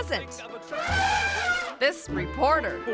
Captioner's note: elephant trumpeting